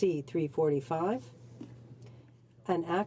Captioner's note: speaking French